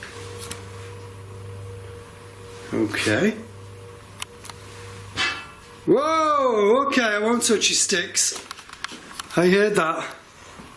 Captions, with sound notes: Okay. (metal clanging) Whoa, okay, I won't touch your sticks. I heard that.